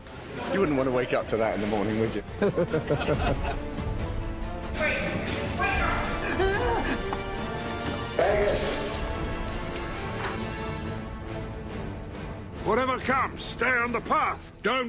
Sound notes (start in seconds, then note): 2.4 all chuckling; 4.7 yells